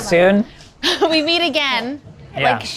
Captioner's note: laughs